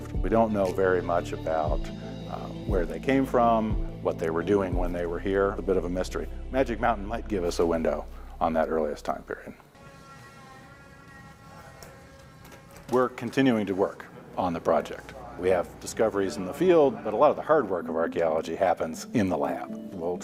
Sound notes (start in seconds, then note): 9.6 metallic buzzing